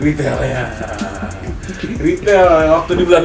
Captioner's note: laughter